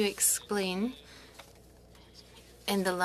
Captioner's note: speaking French